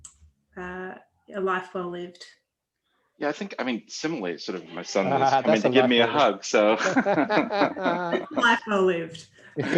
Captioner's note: laughter